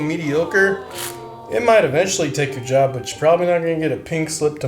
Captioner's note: awwwww